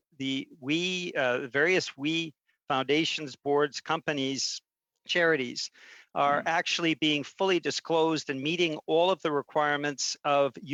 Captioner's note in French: voix de l'interprète